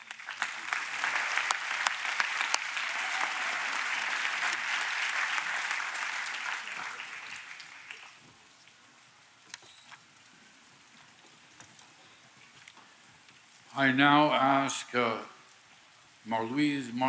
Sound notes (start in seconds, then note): 3.3 applause